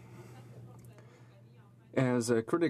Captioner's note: speaking French